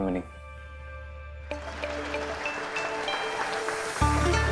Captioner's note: applause